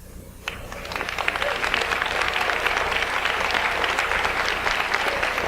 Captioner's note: audience applauds